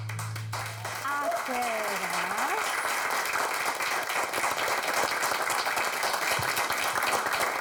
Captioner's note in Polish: Aplauz